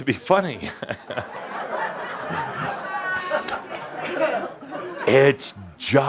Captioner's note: more laughter, Adamus chuckling